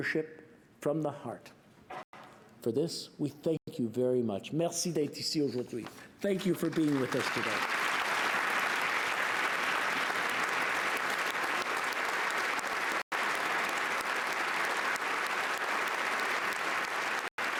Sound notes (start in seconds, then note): 6.3 applause